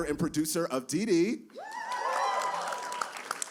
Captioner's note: cheering